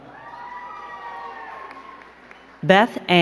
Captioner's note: crowd cheering and clapping